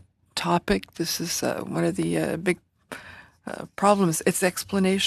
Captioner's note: speaking French